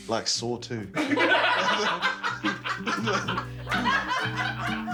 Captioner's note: laughing